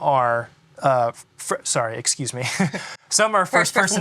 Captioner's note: chuckles